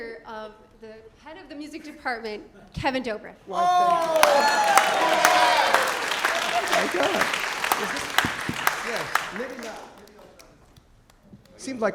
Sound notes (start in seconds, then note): 3.6 applause, cheering